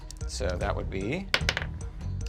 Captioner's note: rolls dice